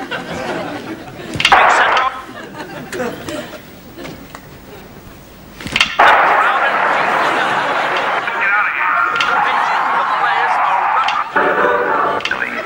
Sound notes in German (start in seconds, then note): 8.1 Klick